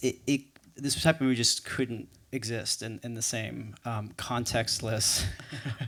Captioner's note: chuckles